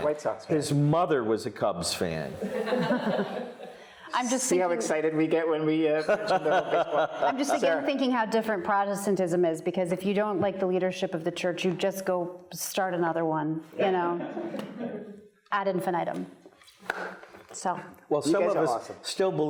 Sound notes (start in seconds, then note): 2.4 audience laughing; 6.0 laughing; 14.1 audience laughing